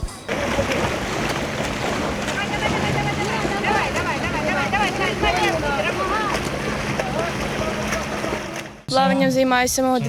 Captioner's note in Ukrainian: шум води та вигуки підтримки вболівальників